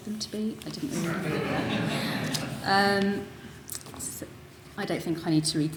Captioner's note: audience laughing